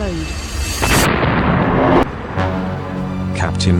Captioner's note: blaster explodes